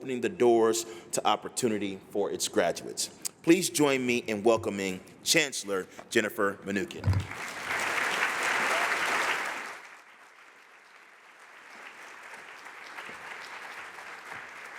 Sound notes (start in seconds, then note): 7.3 applause